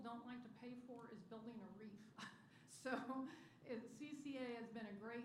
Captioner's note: laughter